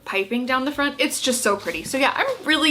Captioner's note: dress shuffling